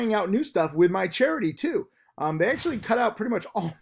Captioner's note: air whooshes; laughs